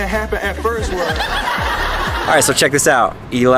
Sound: audience laughter

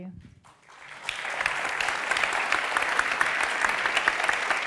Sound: applause

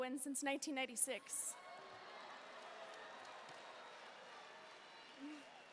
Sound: audience cheering and booing

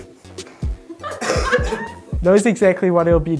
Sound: laughing

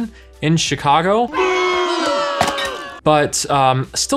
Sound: audience booing

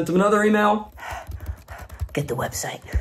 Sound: panting; keys clacking

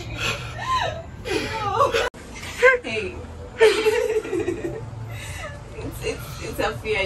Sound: both Laughing

